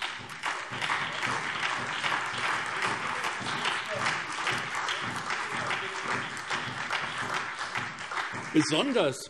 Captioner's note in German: Beifall SPD, BÜNDNIS 90/DIE GRÜNEN und DIE LINKE